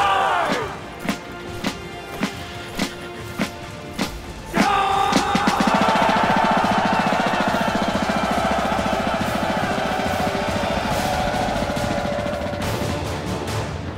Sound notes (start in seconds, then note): 0.2 drums roll; 4.4 soldiers yell; 11.0 dramatic music